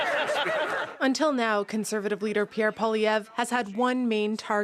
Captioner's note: laughter